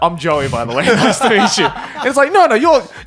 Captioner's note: laughing